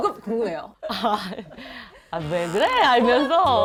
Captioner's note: startled